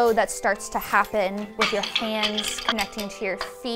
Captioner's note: loom squeaks; loom rattles